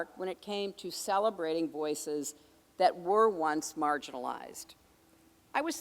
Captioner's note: none